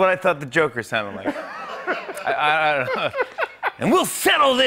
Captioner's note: laughter